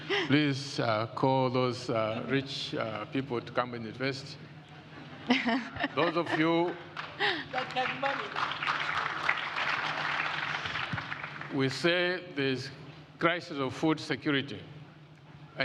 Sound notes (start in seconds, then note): 6.9 audience applauds